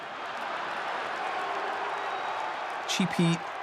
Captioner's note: crowd booing